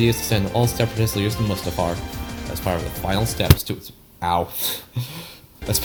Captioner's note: bonk